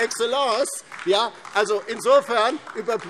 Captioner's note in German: Beifall DIE LINKE